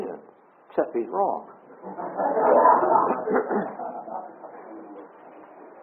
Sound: audience laughs

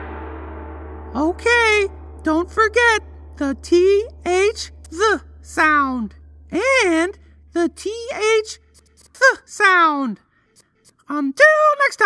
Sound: explosion

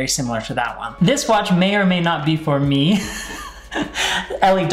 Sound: chuckles

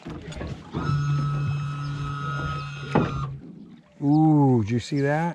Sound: winch motor running

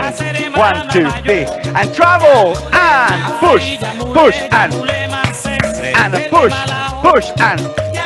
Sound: clap, clap, clap

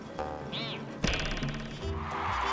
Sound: cheers and applause

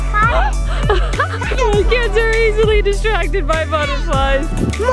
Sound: laughing

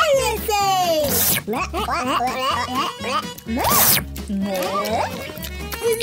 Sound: licking sounds

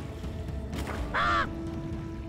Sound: caws

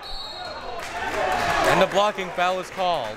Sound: whistle tweeting

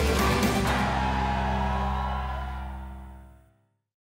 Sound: cheering

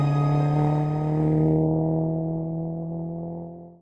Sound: gentle inspiring music; engine revving

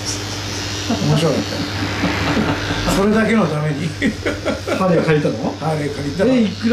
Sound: laughs

